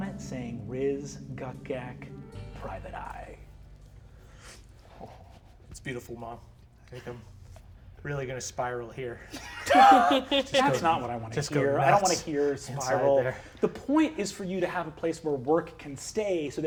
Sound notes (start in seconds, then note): 9.2 all laughing